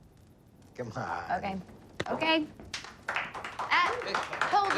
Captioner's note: la foule applaudit